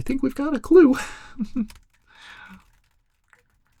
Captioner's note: chuckles